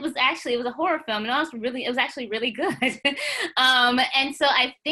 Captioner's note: laughs